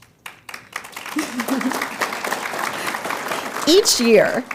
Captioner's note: audience applauds